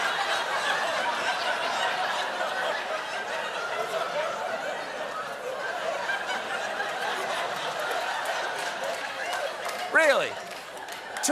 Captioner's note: laughter